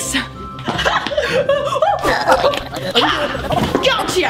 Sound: giggling; Germy gibbering

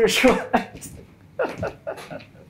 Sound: laughing

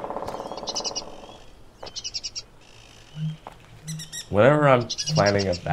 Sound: woodpecker drilling. Birds chirping

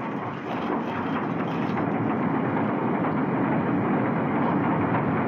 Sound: train Running Sound

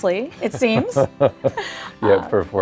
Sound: laughs

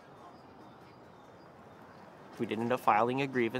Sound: birds chirping

